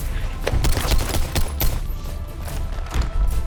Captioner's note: gunshots